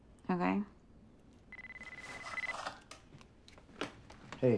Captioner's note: cell phone ringing